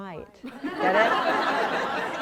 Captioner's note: laughter